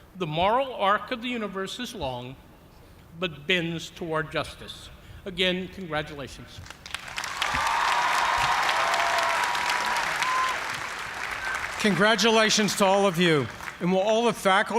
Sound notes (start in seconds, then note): 6.9 cheers and applause